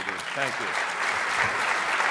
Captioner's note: applause